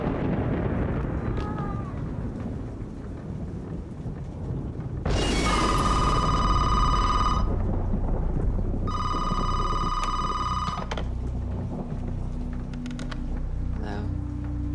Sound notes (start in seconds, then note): 0.3 cat mews; 0.3 thunder rumbles; 5.3 phone ringing; 5.3 thunder booms